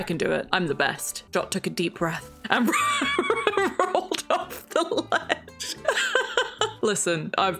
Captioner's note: laughs